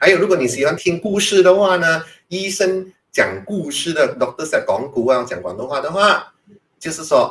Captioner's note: Cantonese